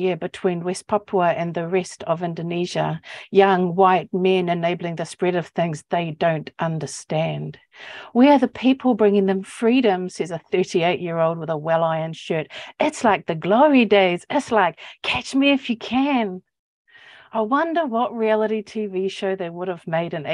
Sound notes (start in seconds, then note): none